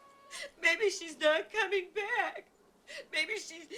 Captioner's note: crying